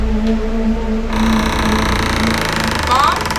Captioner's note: creek